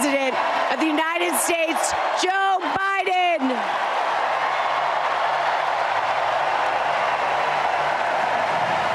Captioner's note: applause